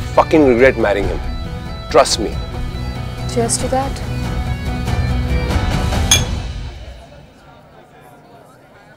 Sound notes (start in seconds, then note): 6.0 Glasses clinking